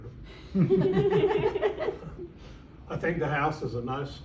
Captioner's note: awkward laughter